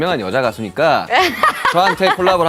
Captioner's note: hahahaha